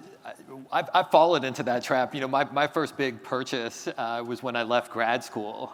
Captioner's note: none